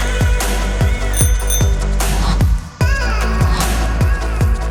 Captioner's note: bike bell ringing